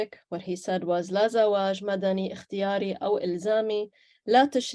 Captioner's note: speaks Arabic